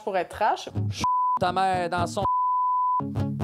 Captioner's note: beep